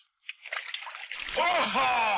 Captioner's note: water splashing; man shouts